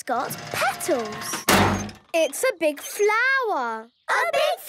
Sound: crane beeping

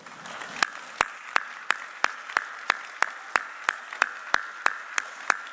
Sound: audience applauding

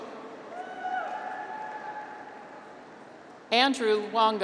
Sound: graduates cheer

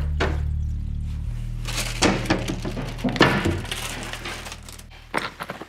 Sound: cabinets and drawers clanking

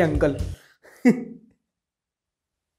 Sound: laughs

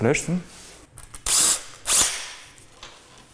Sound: whirring of the drill

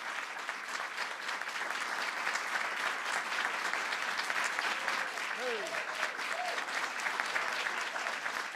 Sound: applause

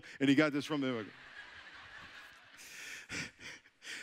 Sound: audience laughing

